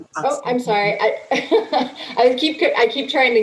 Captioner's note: laughs